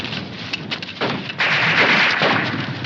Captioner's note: gunfire